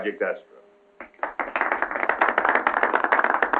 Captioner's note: applause